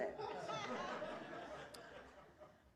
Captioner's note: laughter